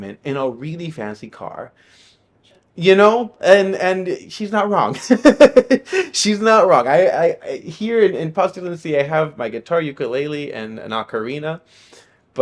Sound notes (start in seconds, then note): 4.8 laughing